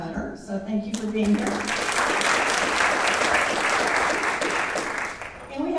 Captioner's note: audience applauding